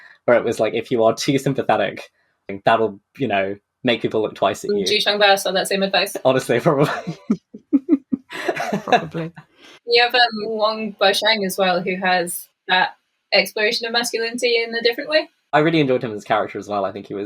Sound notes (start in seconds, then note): 6.6 laughing